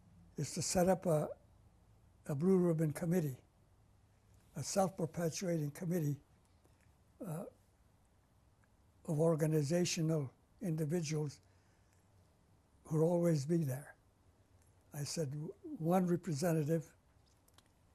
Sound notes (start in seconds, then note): 7.1 pauses for 3 seconds